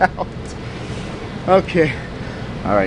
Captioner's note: laughing